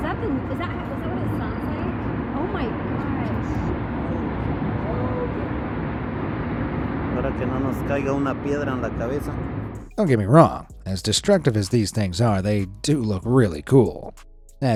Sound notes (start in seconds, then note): 0.1 siren blaring; 5.1 tornado roaring; 7.3 cameraman speaks in foreign language